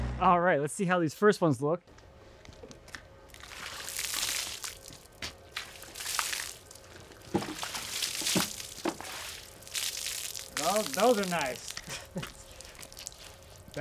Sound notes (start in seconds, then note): 3.7 water splashing; 11.8 laughs